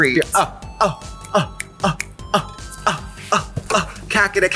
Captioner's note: Trixie grunting